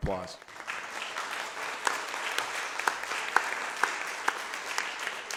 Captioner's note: everyone applauds